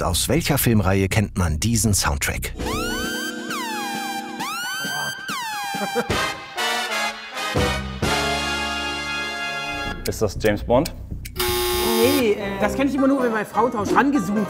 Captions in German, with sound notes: (Sirenen) (Fanfarenmusik) Ist das James Bond? Das kenn ich nur, wenn bei "Frauentausch" rangezoomt wird.